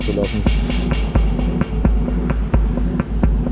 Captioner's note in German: Dumpfe Klänge